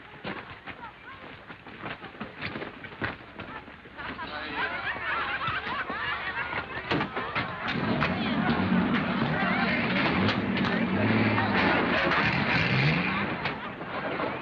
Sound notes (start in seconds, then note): 4.1 crowd laughing; 8.0 vehicle engines revving